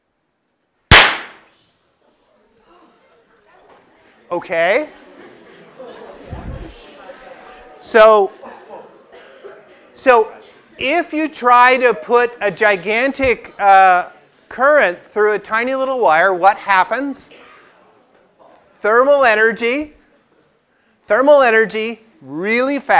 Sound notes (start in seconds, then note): 4.4 laugh; 9.0 cough